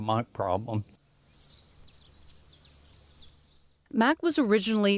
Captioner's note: birds chirping